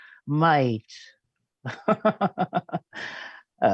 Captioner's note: laughing